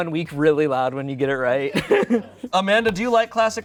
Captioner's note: laughs